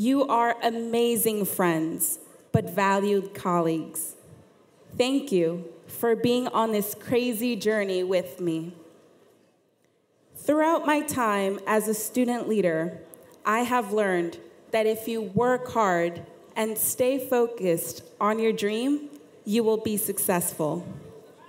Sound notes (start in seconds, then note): none